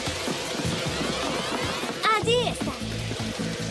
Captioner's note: crackling